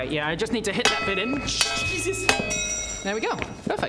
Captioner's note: clang clang